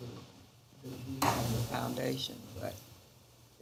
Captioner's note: something rubbing against a microphone